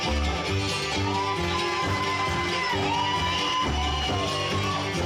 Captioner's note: audience cheering